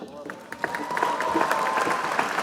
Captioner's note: applause